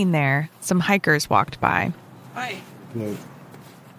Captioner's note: ambi of hikers going by, woman saying hi